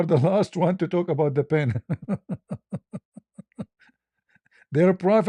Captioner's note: ketawa